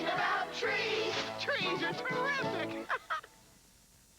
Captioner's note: laughs